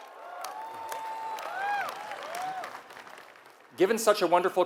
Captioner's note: applause